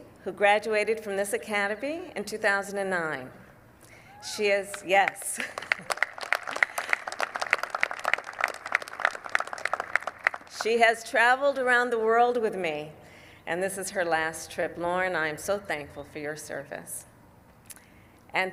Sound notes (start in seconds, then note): 5.1 applause